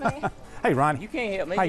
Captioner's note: laughter